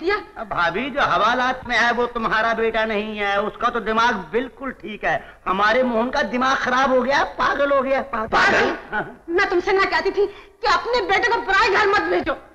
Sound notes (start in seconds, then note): none